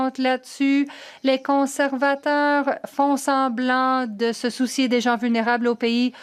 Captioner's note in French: voix de l'interprète